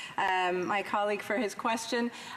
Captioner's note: speaking in French